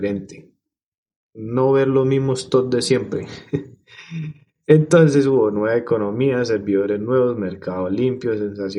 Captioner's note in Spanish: carraspeo